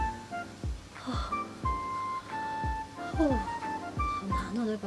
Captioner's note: sigh